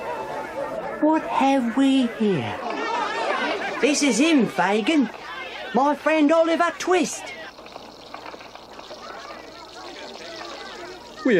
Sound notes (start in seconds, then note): 7.5 food sizzling; 8.9 townspeople chattering